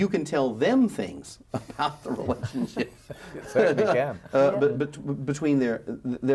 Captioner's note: laughs